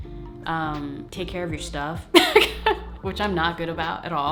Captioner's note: laughing